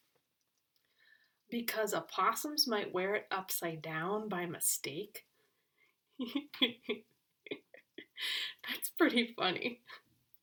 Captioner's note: laughs